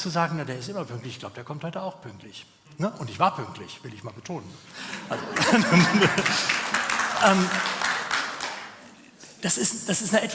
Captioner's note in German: gelächter